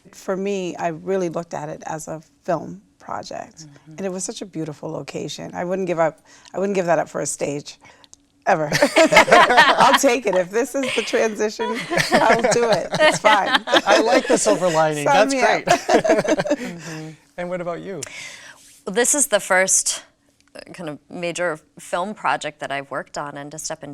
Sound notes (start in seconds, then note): 9.0 all laughing; 13.2 laughing